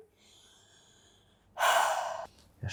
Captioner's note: sighs